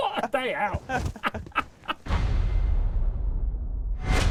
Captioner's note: laughing